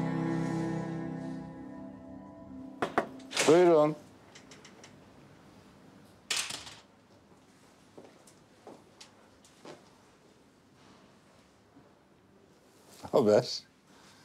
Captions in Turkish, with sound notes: (Kapı vuruluyor) Buyurun. Ne haber?